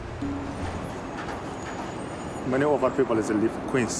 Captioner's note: slow music; subway train and city sounds